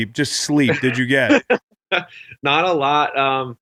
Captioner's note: laughs